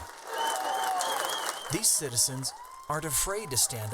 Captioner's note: crowd cheering and whistling